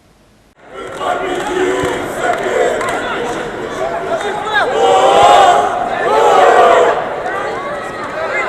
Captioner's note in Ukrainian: вигукують гасла